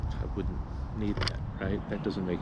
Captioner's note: scratching